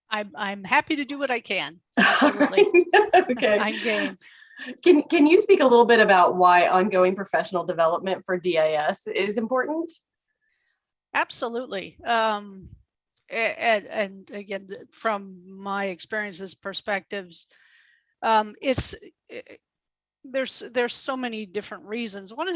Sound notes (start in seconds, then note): 2.0 laughs